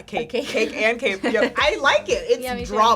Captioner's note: laughing; chuckles